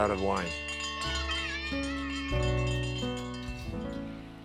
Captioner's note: bell ringing